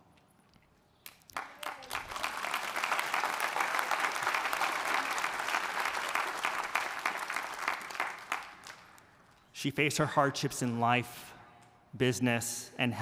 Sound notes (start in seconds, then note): 1.1 audience applauding